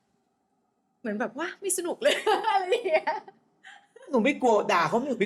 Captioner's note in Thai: เสียงหัวเราะ